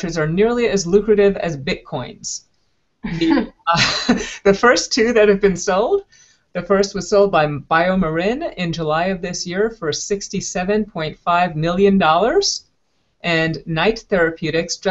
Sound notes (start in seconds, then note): 3.7 laughter